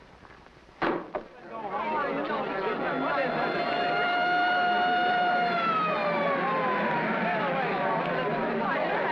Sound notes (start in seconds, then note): 2.4 siren wailing; 2.9 crowd chattering